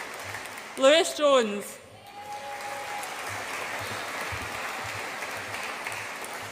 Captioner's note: audience applauds and cheers; audience applauds and cheers